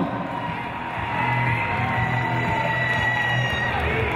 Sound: cheering

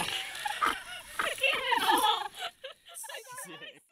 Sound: all giggling

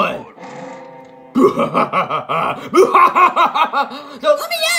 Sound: Bowser laughing hysterically

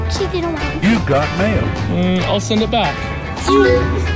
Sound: voiceover

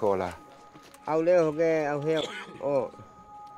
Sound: speaking Indonesian

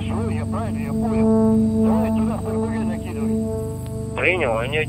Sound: radio exchange

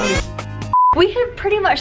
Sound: signal tone

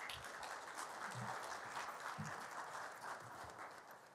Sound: applause

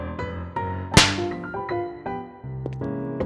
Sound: slaps

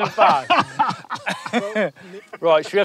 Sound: both laugh

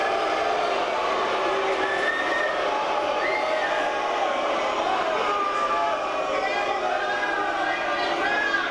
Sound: BOOs from audience

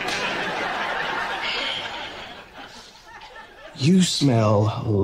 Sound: laughter

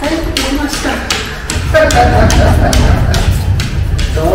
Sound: laughs

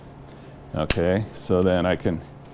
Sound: click

